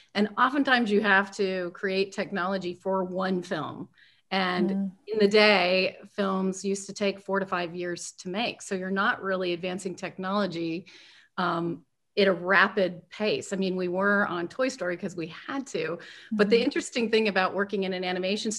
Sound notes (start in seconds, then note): none